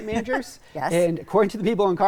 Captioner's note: laughs